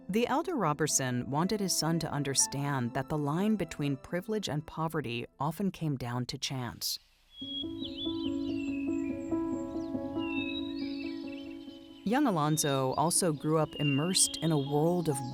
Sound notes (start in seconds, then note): 7.4 birds singing; 7.4 bright music